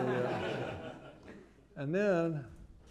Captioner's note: laughter